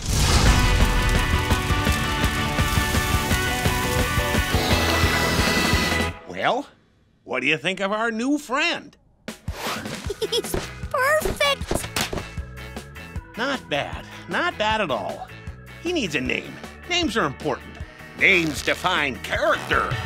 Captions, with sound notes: Well, what do you think of our new friend? [giggling] He's perfect! Not bad. Not bad at all. He needs a name. Names are important. Names define character.